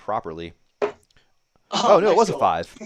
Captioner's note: dart ticks